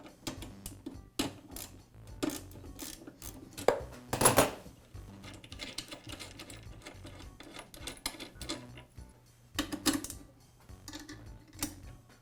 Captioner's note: tools clunking